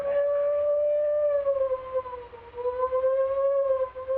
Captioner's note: siren wailing